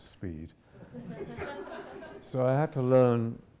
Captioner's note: audience chuckles